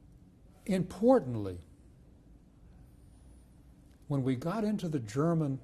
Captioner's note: pauses for 3 seconds; pauses for 3 seconds